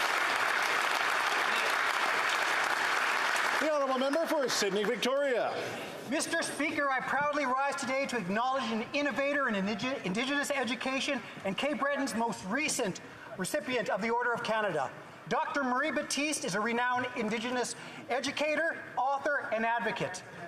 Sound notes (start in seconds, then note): 0.0 applause